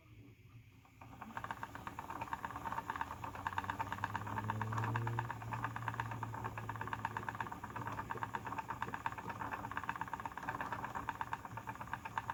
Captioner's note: slight whirring noise of the electric wheel